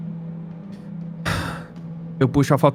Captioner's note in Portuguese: Suspiro